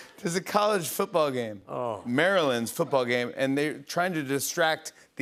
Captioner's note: none